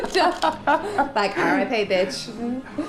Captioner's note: laughs